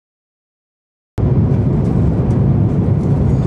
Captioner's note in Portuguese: Som do avião